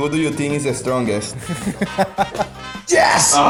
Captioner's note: laughs